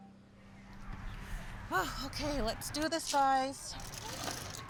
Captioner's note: exhales; people talking in background